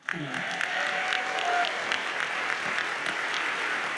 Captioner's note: audience applauds